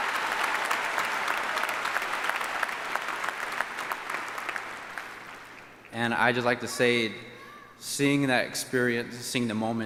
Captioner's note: cheering and applause